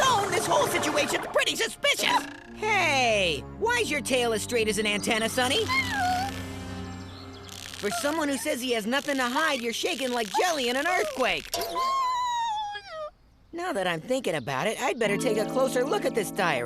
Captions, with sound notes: This whole situation's pretty suspicious. Hey, why's your tail as straight as an antenna, Sunny? [squeaking] For someone who says he has nothing to hide, you're shaking - like jelly in an earthquake. - [nervous squealing] Now that I'm thinking about it, I'd better take a closer look at this diary,